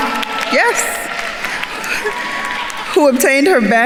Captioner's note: attendees cheering and applauding